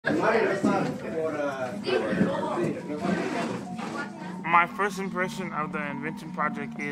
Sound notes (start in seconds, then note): 0.0 muffled chatter